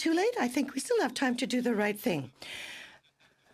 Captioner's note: speaking French